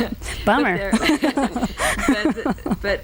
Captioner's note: laughing